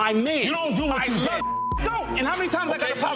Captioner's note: beep